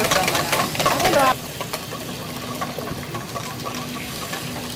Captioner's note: whisking